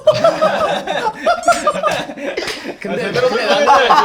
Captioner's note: laugh